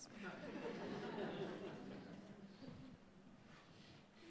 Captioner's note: audience laughing